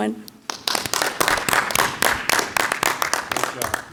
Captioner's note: clapping